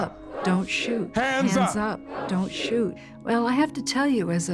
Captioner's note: echoing